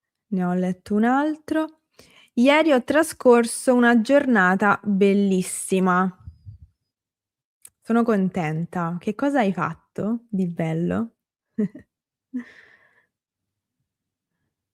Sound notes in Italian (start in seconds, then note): 11.6 risate